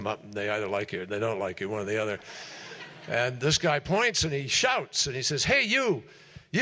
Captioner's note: laughter